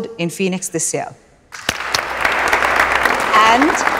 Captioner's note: Clapping